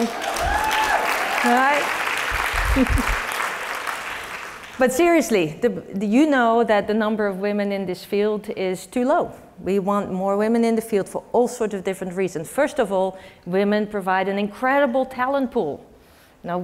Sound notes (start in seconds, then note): 0.0 applause; 2.6 laugh; 3.3 applause